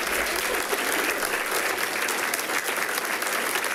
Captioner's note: people clapping